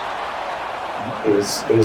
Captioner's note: crowd Noises